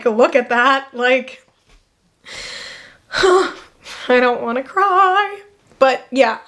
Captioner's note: sighs